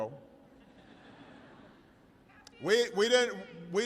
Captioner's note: laughter